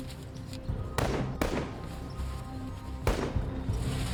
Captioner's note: gunshots